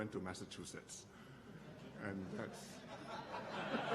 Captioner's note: laughter